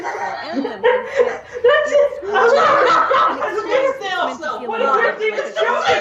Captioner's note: Jim laughing; laughing